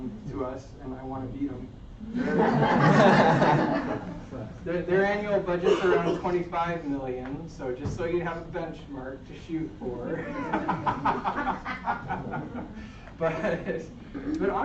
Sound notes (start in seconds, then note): 10.1 laughter